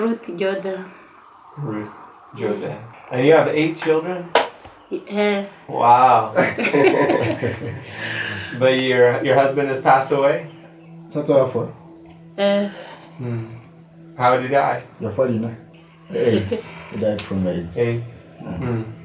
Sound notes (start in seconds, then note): 5.7 laughing; 11.2 speaking in foreign language; 15.4 speaking in foreign language